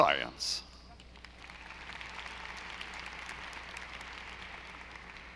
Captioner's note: audience applauding